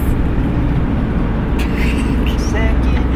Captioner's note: laughs